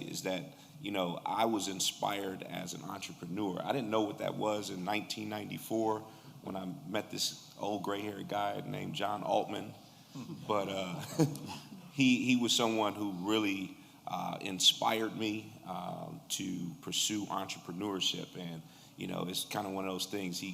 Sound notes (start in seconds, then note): 10.8 laughter